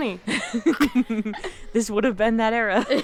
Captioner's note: both laughing